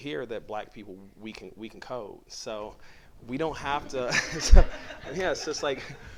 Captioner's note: laughter